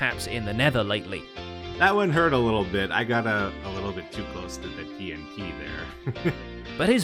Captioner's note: pained laughter